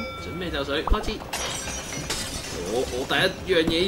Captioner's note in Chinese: 玻璃破裂聲音